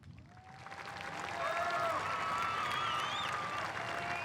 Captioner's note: applause and cheering